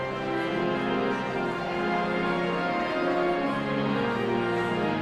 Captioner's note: audience chattering continues